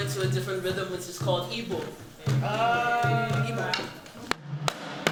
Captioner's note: non-english; steady drumming